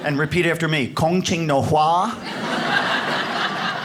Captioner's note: speaks Chinese; audience laughs